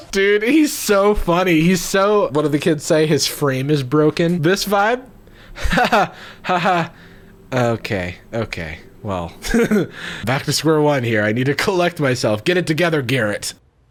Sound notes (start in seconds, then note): 5.0 laughing